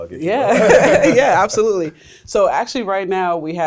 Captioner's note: laughs